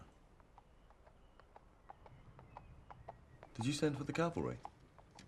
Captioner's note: hooves clomping